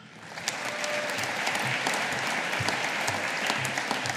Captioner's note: audience applauding